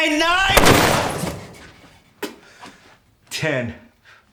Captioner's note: gunshot booming